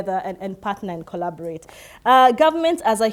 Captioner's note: none